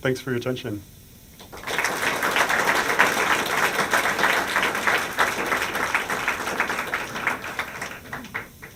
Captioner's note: applause